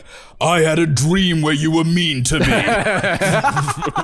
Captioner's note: deep voice